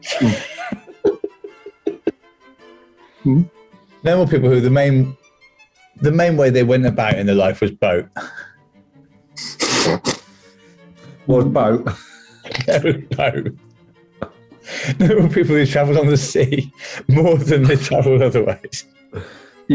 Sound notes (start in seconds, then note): 0.0 giggling; 9.4 sniggering; 11.0 cockney accent; 13.8 laughing